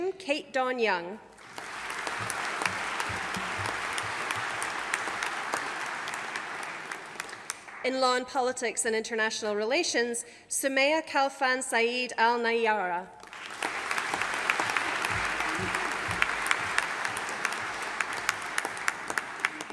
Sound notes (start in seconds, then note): 1.3 audience applauding; 13.2 audience applauding